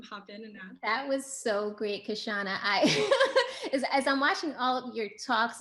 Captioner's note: chuckles